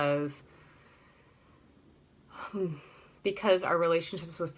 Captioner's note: sighs